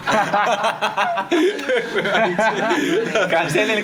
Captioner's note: all laughing